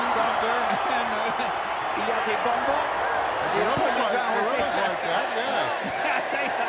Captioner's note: laugh; laugh